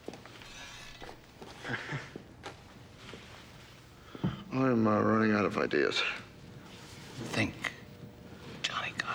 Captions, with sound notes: (chuckles) I'm, uh, running out of ideas. - Think.